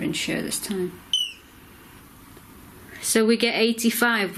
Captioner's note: beep